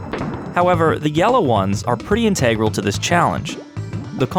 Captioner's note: none